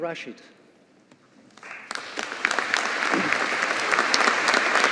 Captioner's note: audience applauding